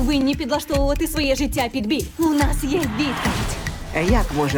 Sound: cheering

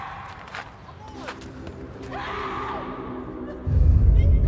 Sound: Maya's screams replay

